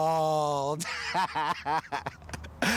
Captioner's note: laughs